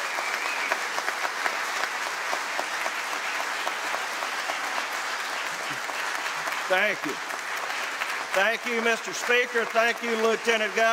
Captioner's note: applause